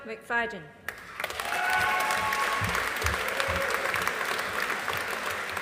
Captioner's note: audience applauding